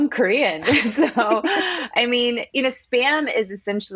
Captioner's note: laughter